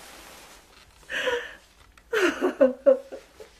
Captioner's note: sobbing